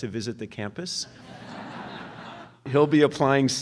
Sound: audience laughs

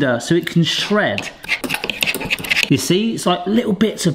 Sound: forks scratching

